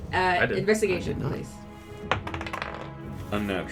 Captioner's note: die tumbles